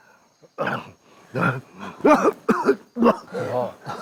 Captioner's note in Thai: เสียงไอ